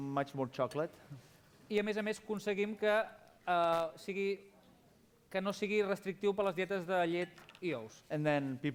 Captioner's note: non-english speech